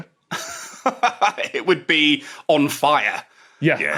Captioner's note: laughs